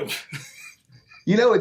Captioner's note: laughing